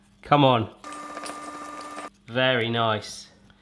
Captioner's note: whirring